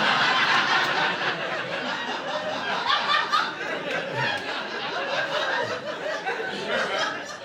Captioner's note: audience laughing